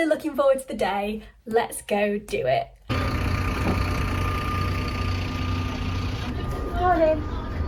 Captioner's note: engine sounds